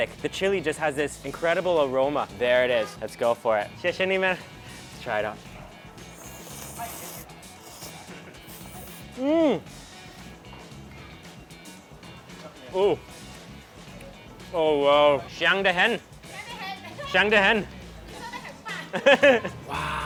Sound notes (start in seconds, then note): 3.9 speaks in a foreign language; 5.9 slurps; 15.5 speaks in a foreign language; 16.3 woman speaks in a foreign language; 18.9 laughs